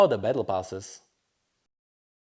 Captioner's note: moment of silence